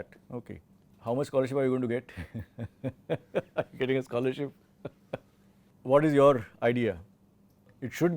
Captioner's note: laughs